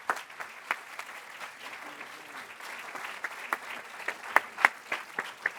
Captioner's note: applause